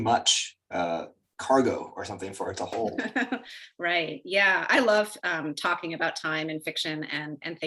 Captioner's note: laughs